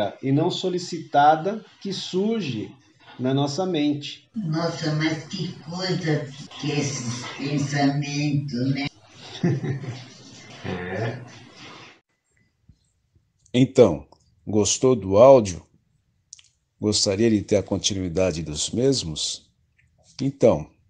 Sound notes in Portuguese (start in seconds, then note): 9.1 risos